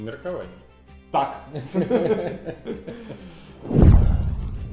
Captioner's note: laughing